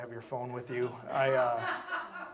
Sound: audience laughs

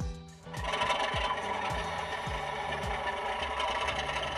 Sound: toy train rattling

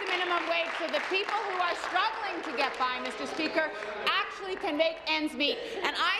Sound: applause

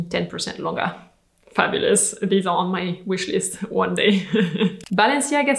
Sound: laughs

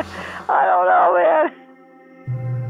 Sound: laughing

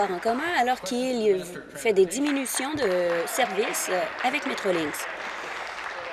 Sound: applause

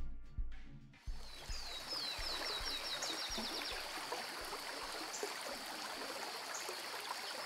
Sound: birds chirping; water rippling

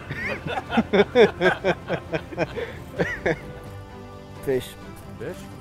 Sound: laugh

